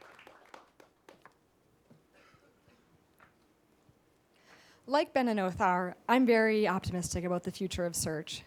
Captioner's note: pause